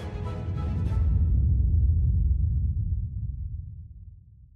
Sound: thunder rumbling

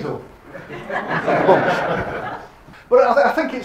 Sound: audience laughs

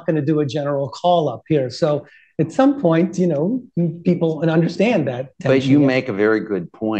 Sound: laughter

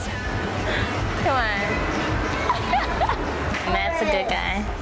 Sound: laughs

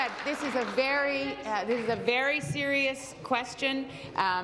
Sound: applause

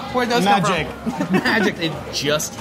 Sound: laughing

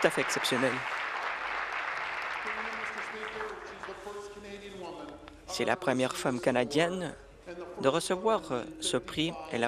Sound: applause

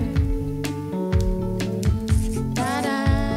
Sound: keyboard and viola play; typewriter clacking

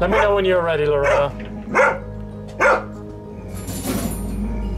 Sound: barks

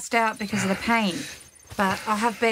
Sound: Fabrick rustles and Bob heaves himself up

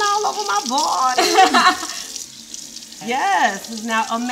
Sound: laughing

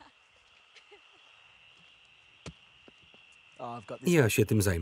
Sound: crickets chirping

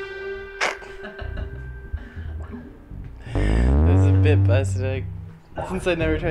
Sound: laughs

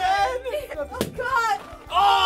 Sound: balloon popping

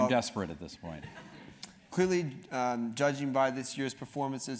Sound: laugh

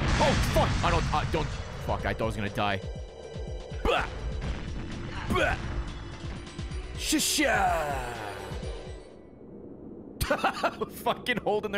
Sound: laughs

